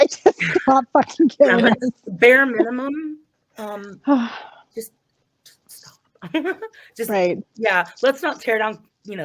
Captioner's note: sarcastically